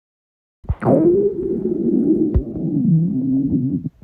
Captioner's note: stomach continues to growl